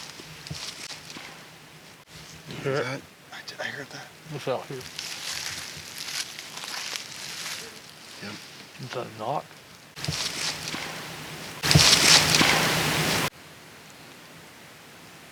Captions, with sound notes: - You hear it? - I heard that. - It's out here. (leaves crunch) - Yep. - Was that a knock? (faint thump)